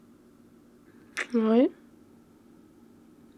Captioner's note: kiss